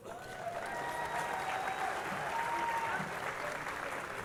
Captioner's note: crowd applauding